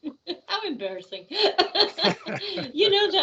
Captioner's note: laughing